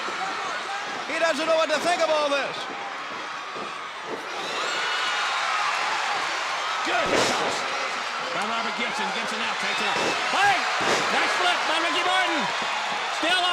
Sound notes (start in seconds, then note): 4.2 audience cheering; 6.8 floor banging